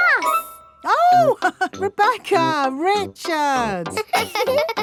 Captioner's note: laughs; both laughing; chuckles